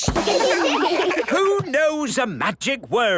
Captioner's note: children laugh